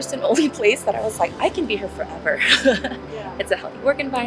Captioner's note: laughs